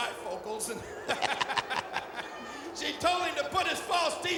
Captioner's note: laughs